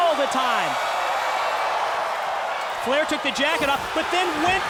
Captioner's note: crowd cheering